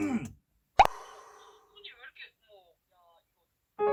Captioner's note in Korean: 감정을 잡는 듯한 심호흡